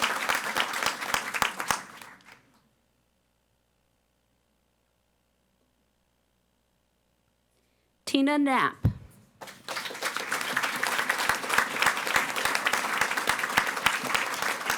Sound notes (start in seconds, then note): 9.4 audience applauding